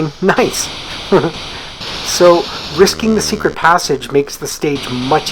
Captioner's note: chuckles